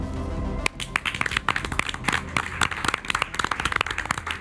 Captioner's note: group applauds